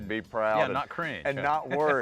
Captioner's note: laughs